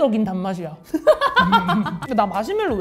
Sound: hahahaha

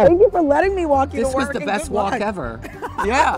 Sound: laughs

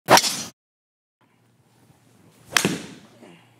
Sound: golf club whipping

